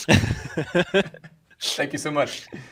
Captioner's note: laughing